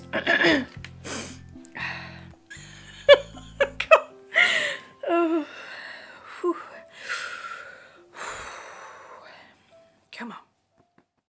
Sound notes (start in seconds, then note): 0.1 cough cough cough sniff; 6.8 deep inhale deep exhale